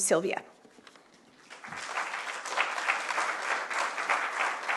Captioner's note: applause